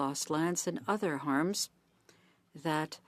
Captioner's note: speaking French